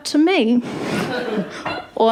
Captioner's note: laughter